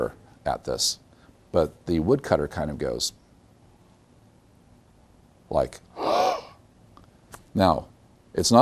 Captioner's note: gasp